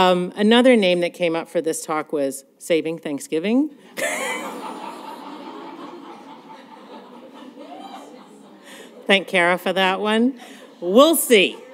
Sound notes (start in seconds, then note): 3.9 laughter